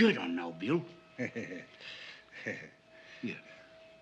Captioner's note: chuckles